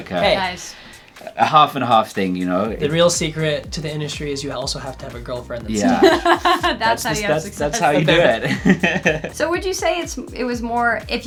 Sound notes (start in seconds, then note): 5.8 laughs; 7.6 all laughing